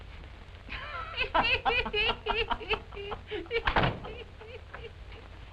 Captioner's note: laughter